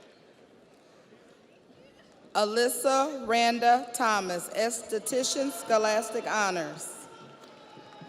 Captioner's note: audience applauds; audience cheers